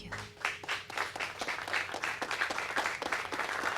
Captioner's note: applauding